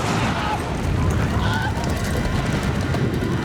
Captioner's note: screams